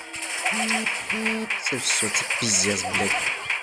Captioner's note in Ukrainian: звук вібрації від сповіщення